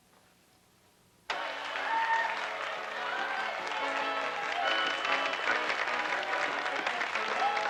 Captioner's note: Tepuk tangan